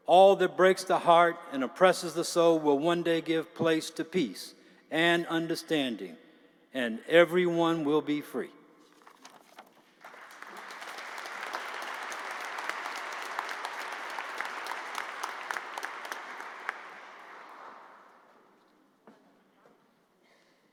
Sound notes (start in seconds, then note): 13.2 applause